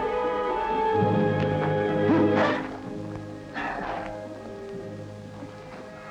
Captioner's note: gasp